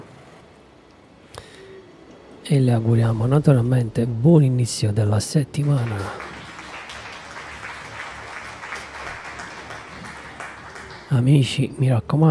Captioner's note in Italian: Applauso